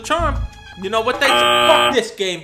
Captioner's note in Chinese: 嗡嗡聲